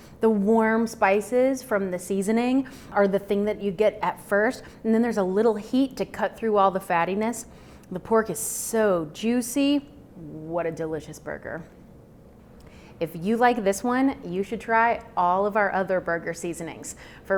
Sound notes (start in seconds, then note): none